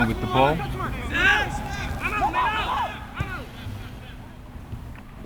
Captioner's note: players shouting